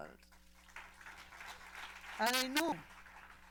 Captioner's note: applause